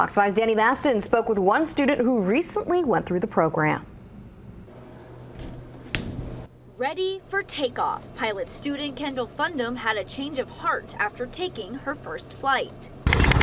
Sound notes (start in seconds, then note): 5.9 nats of door to plane closing